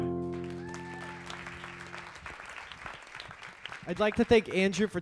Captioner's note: audience applauds